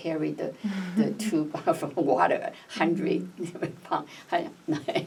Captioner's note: laughs